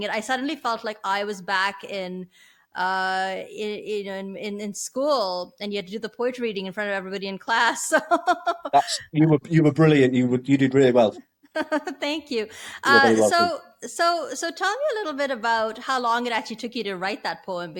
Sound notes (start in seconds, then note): 8.4 laughs; 12.8 laughs